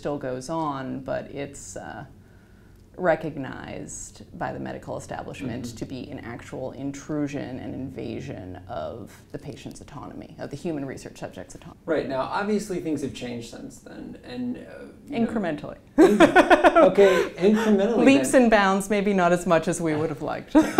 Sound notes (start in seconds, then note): 16.0 laugh; 20.5 laugh